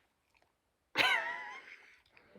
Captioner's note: laughing